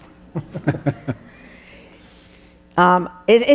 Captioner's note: laughing